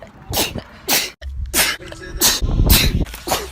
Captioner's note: sneezes again; sneezes; achoo